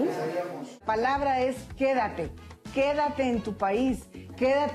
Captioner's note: speaking Spanish